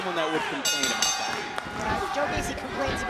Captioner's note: bell rings